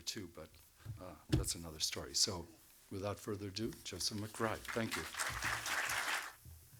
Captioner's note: applause